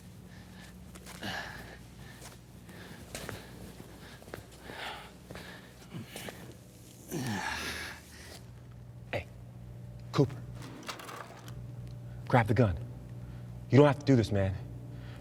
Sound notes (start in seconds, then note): 1.0 Robert sighs; 4.8 pants lightly; 9.2 low tone voice